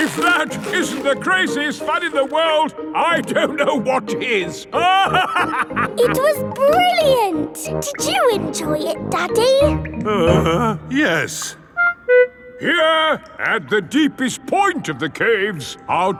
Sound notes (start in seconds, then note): 0.0 yelling; 4.8 laughing; 10.6 groans